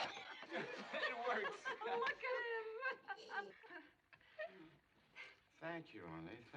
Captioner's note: laughing